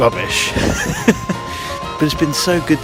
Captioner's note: laughs